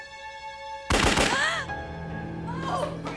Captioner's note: gunshots